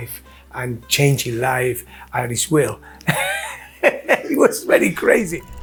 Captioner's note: laughing